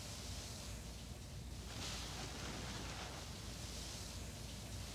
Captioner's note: soft rustling